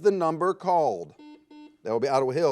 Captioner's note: buzzer